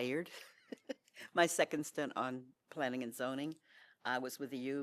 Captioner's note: laughter